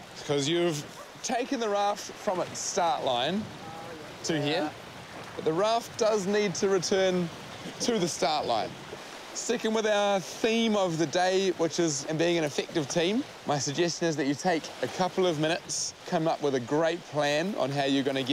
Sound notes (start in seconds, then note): 8.6 chuckling